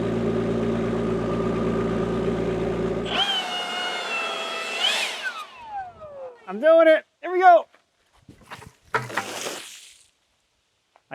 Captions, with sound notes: (leaf blower howling) I am doing it. Here we go. (water splashes)